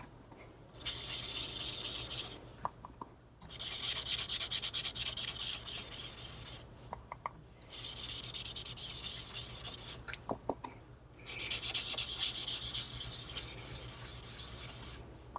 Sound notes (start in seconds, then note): 1.0 sponging on the ink...makes a scratching sound